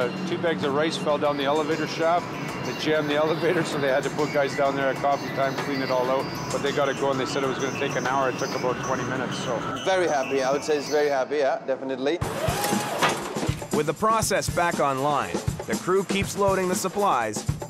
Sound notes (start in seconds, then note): 12.2 machine humming